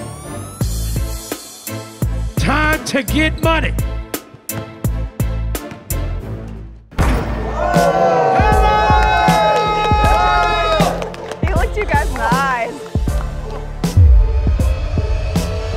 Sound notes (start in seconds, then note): 0.0 upbeat music; 7.1 crowd cheering